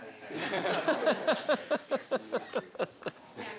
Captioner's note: laughing